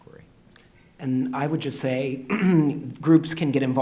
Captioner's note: throat clearing